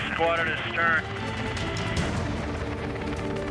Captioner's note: man On Radio